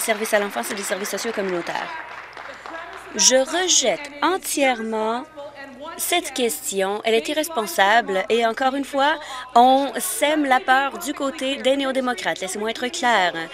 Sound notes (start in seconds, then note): 3.2 applause